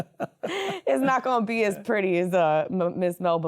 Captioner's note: laughter